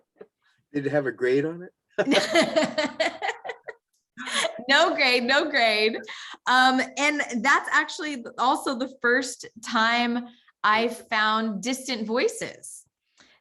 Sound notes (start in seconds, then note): 2.0 laughing